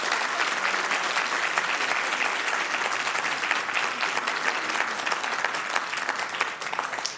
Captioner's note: spanish; applause